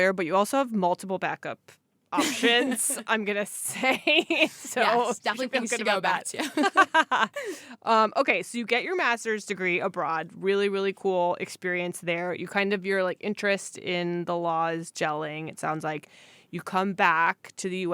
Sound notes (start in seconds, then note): 8.0 laughter